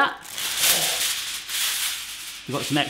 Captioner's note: foil rustling